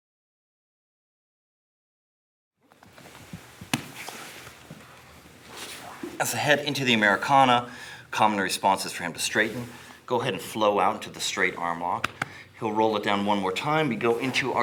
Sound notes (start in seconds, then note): 4.2 soft shuffling; 12.0 gentle tapping